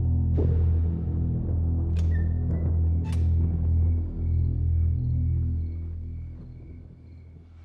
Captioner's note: door squeaking